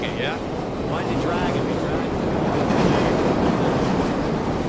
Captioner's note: train clanking too loud